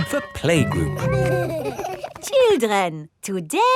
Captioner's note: giggling